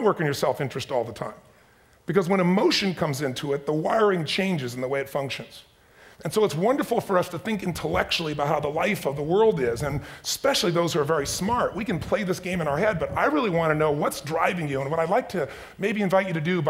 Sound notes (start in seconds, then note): none